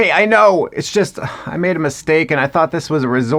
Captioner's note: sighs